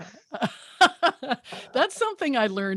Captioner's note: laughs